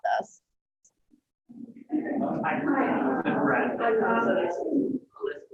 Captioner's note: chatter